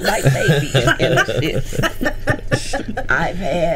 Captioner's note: group laughing